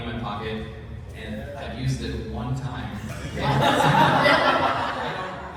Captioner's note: laughter